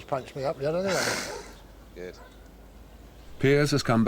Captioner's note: chuckles